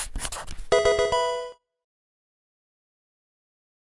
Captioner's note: pencil writing; Pokemon game sound